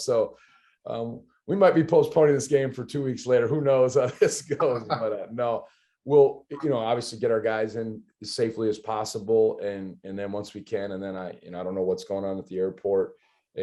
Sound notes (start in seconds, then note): 4.0 laughter